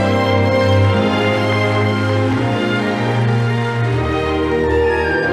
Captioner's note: audience applauding